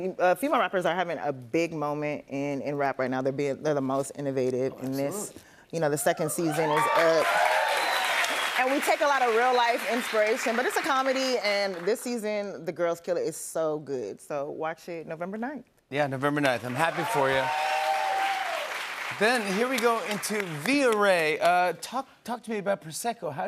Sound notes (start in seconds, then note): 6.4 cheers and applause; 16.5 cheers and applause